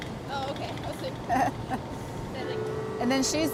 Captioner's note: laughs